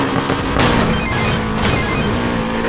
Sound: phone rings

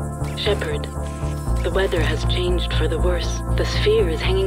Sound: Weiblicher Roboter

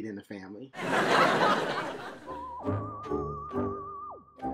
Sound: audience laughs

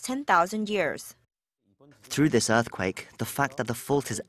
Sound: Korean

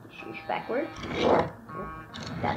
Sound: car rolling

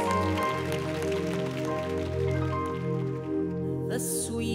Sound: applause

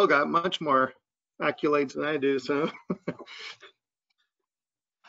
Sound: laugh

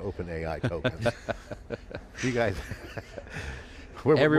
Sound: laughter

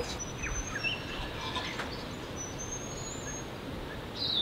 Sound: birds chirping

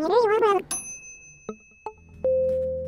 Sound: bell chime; electronic tones

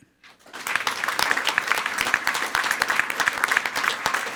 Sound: everyone applauding

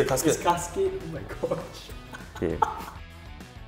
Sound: laughs; upbeat music

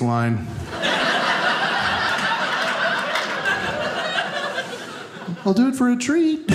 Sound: audience laughing

